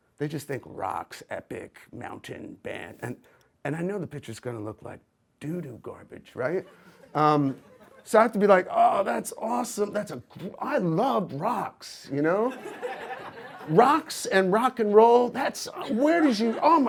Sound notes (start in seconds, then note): 12.4 audience laughs